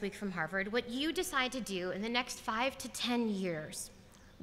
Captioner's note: none